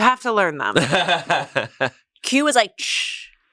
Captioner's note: laughs